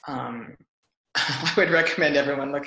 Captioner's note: laughs